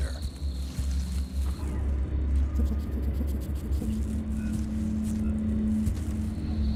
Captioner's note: crickets chirping; suspenseful music